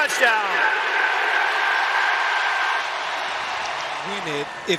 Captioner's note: cheers and applause